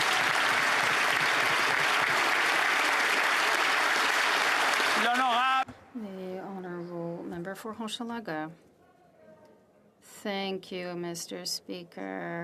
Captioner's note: applause